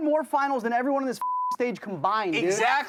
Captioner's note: beep